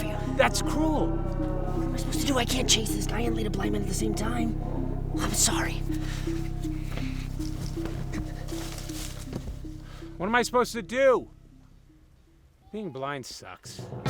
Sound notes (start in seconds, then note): 11.3 eerie sound ends